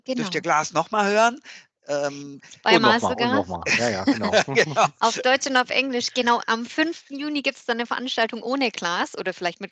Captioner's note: laugh